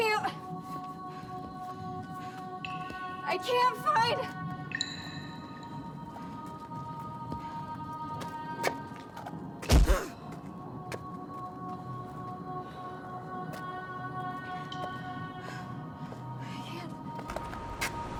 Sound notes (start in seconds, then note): 9.6 Abby gasps; 9.6 soft thump; 11.6 peaceful music